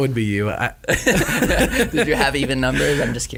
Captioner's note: laughing